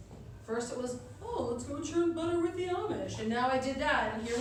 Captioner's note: mocking